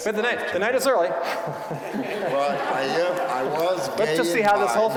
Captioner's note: audience laughing